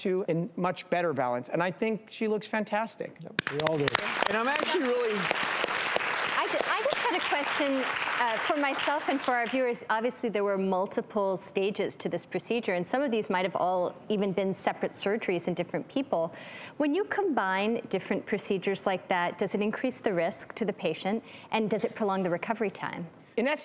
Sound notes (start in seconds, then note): 5.1 clapping